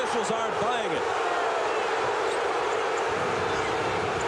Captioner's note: crowd booing